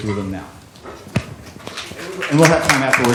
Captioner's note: applause